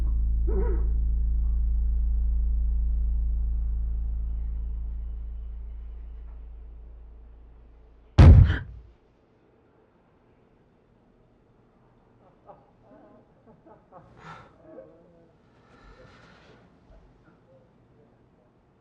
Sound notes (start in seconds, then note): 8.2 bang; 12.1 laughing